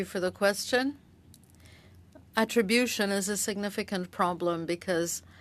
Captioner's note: speaking French